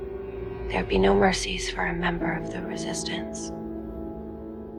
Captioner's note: voiceover